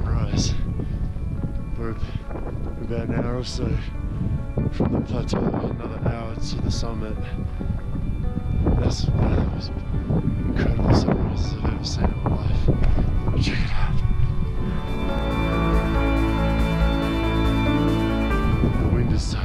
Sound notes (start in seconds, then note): 8.9 wind whipping; 15.7 soaring piano music